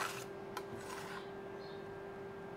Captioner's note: birds chirping